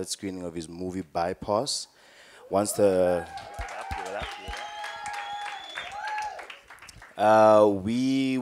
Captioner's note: cheering